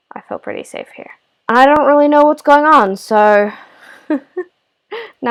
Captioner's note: laugh